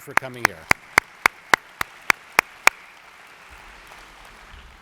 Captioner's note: audience applauds